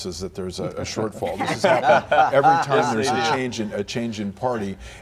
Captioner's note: laughter